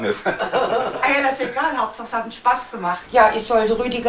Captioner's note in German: Lachen